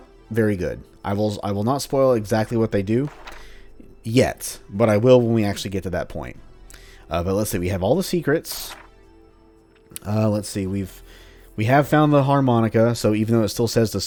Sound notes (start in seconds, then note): 2.4 journal closes; 8.4 journal opens